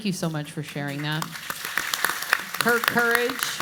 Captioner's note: audience applauds